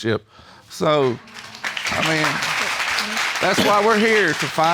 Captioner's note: audience applauding